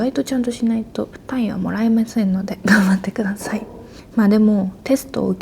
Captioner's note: laughs